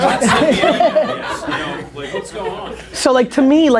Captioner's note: group laughter